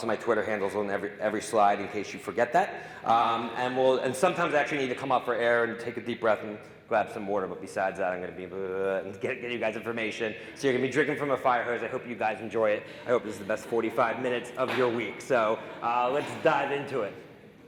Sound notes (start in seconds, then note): 9.0 mimicking talking fast